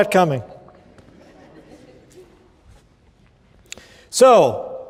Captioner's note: laughter